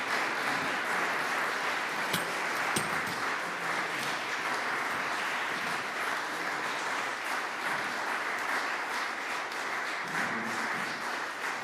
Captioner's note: applause